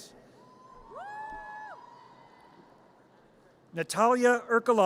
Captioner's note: audience cheers